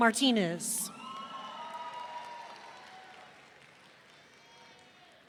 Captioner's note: audience cheering